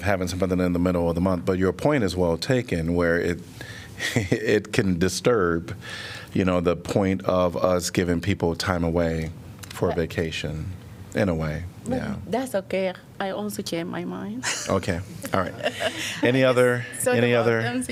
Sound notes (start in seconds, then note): 14.4 laughter